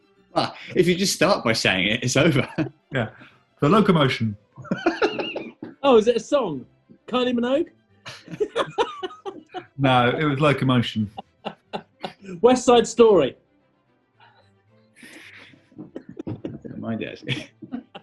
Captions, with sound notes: Well, if you just start by saying it, it's over! Yeah! The Locomotion! [GIGGLING] Oh, is it a song? Kylie Minogue? [LAUGHTER] No, it was locomotion. [LAUGHING] West Side Story! I don't mind it, actually.